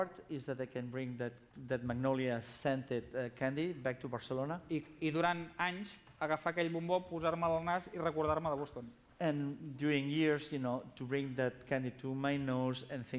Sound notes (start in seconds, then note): 6.4 non-english speech